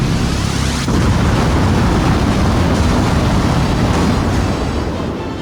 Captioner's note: magic booms